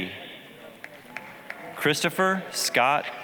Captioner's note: applause